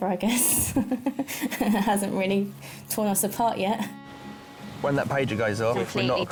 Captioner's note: chuckling